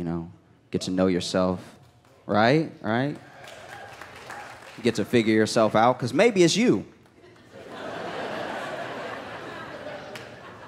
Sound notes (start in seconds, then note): 7.2 laughter